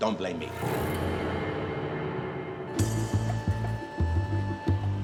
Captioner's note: gong rings loudly; ominous music